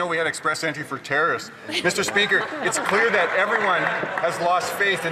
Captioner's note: some Applause